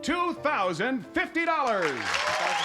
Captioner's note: applause